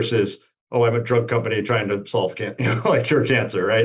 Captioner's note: laughs